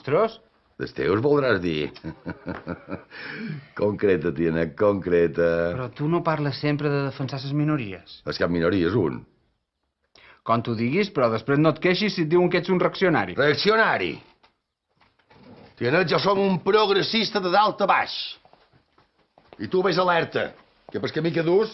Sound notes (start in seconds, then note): 1.9 laughs; 1.9 mocking laugh